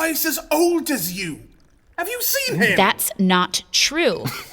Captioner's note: through teeth